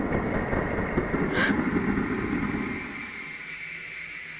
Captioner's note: woman gasps